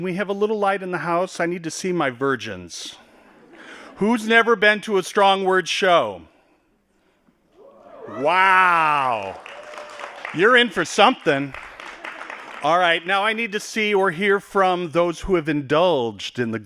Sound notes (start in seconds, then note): 3.3 laughing; 9.0 applause